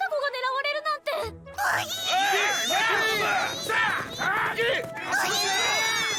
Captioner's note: men shouting & grunting